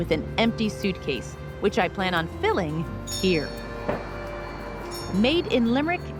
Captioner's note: door bells jingle